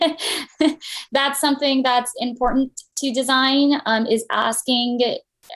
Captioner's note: laughter